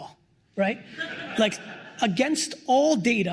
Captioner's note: laughter